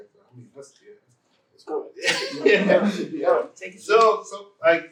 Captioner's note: laughter